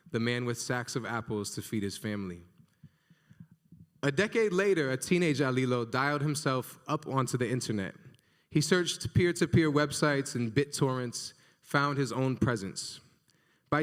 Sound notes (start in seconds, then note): none